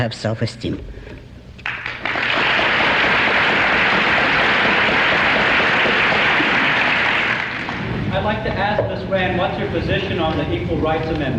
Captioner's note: applause